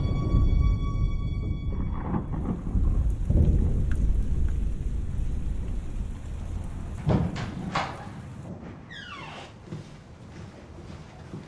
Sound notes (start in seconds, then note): 0.0 thunder rumbling; 4.2 rain pattering